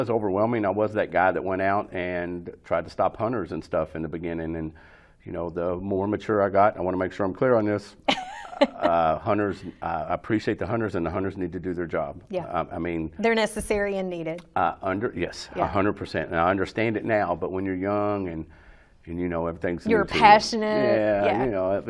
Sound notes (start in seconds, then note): 8.1 chuckles